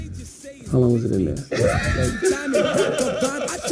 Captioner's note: laughter